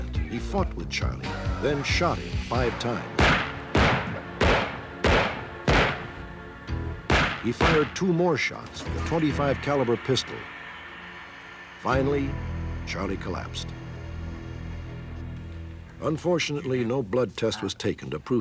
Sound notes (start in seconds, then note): 2.4 gunshots